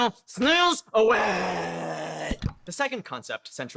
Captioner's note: click